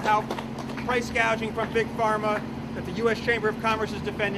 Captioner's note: applause